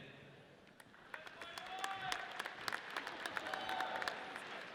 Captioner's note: audience cheers